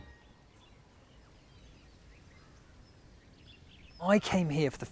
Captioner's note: bird song